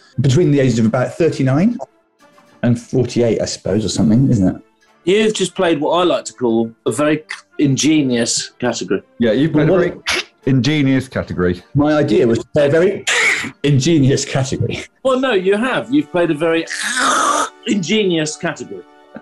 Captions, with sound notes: ...between the ages of about 39... ...48, I suppose, or something, isn't it? You've just played what I like to call a very c—ingenious category. Yeah, you've played a very [QUACKS] ingenious category. My idea was to play a very [QUACKS] ingenious category! Well, no, you have. You've played a very [GUTTURAL QUACK] ingenious category.